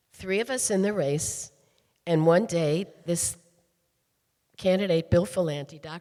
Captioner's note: none